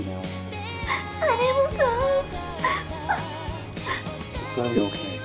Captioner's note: sobs